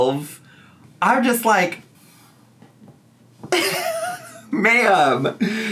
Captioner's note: laughs